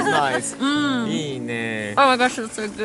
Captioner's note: speaking japanese